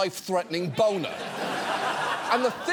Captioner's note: studio audience laughs